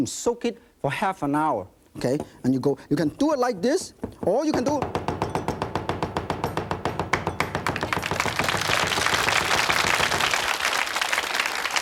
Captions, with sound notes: Soak it for half an hour, 'kay? And you go, you can do it like this, or you can do. (cleaver loudly chopping) (audience applauding)